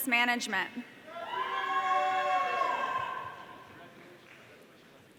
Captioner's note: audience cheering